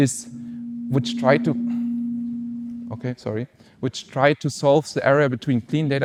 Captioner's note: mic feedback